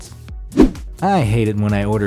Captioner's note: air whooshes